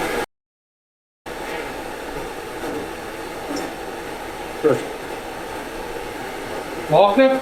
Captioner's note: static sound